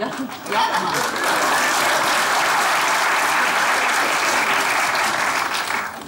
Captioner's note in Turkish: Alkış sesleri